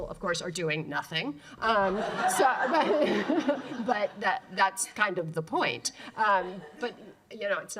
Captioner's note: laughter